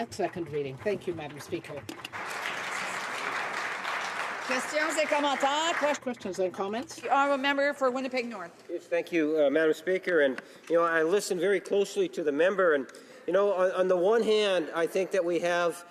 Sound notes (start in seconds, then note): 2.8 applause